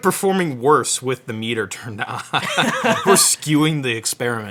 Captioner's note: laughs